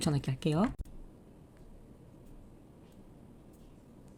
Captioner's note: pause